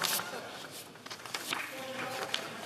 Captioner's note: in Unison